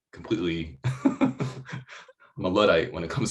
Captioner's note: laughs loudly